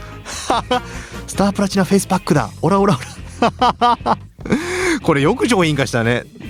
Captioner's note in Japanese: 笑い; 笑い